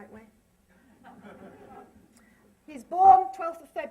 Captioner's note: laughter